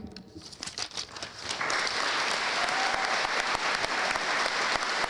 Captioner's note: audience applauding; audience cheering